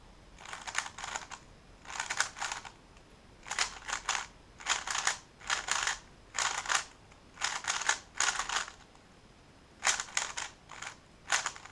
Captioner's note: cube noises